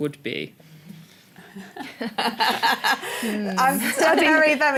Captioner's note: laughter